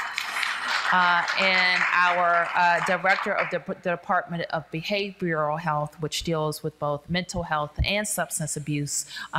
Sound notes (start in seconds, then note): 0.0 applause